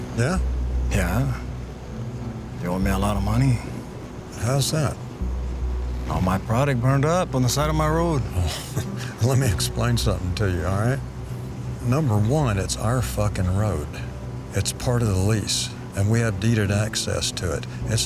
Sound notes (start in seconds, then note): 8.8 scoffs